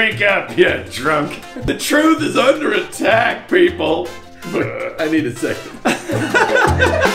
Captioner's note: burrrp